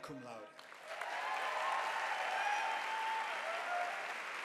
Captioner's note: audience applauding